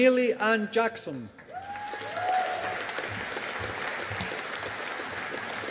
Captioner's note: audience applauding